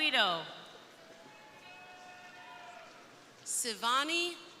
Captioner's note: crowd cheering